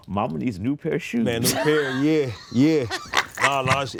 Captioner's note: Spike laughing